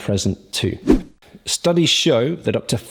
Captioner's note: swoosh